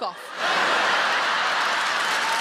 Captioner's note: audience laughing; audience clapping